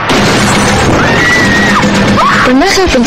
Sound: screaming; speaking indonesian

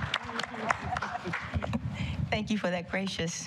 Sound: applause

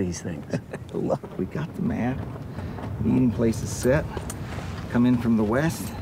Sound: chuckles

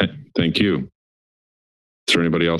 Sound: silence

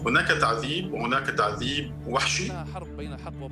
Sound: in Arabic

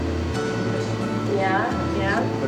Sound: faint voice

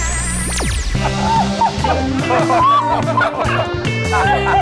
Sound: laughs

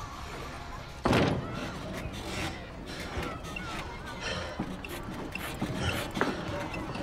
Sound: metal squeaking

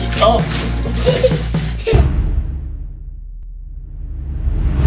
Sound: groans; laughing

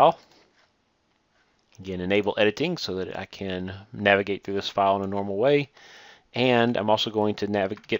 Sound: click

